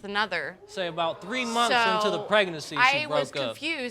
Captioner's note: audience gasps